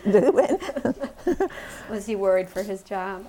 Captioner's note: laughter